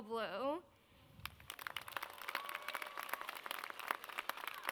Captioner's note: audience claps